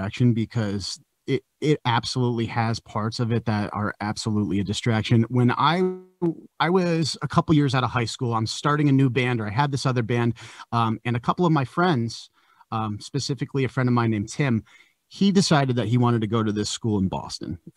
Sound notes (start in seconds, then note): none